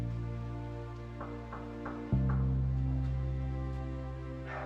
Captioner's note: knocking